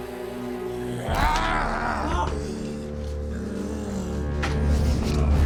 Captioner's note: door creaking; bucky gasps; zombie walter growling